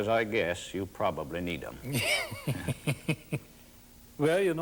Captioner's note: laughs